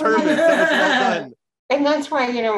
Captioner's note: group laughs